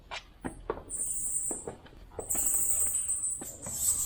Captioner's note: sound of bats